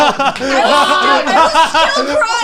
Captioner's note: laughing